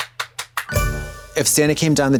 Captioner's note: Trixie claps; bright chime